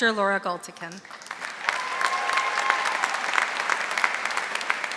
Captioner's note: audience applauding